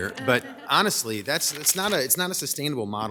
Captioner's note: group laughs